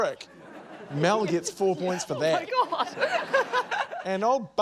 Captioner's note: laughs